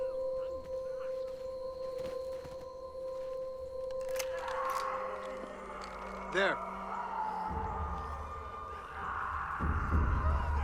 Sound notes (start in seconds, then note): 6.4 snarling continues